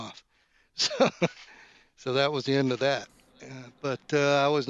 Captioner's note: laughs